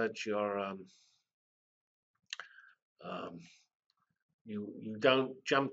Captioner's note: pause